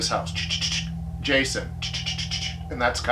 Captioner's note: imitates chittering; continues imitating chittering